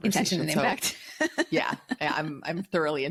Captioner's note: giggles